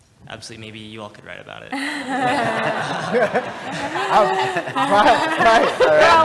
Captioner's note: laugh